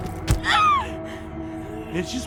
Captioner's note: thudding; wailing